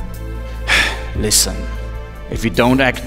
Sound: sigh

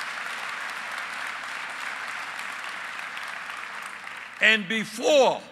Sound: applause

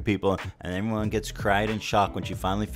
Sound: none

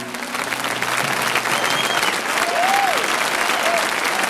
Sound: audience applause

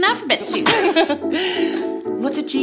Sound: both giggling

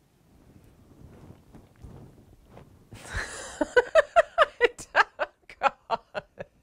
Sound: laughs uproariously

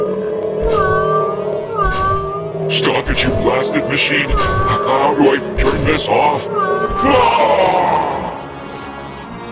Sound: meows from robot

